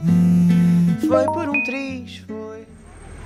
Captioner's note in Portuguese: Celular vibrando; Barulho de notificação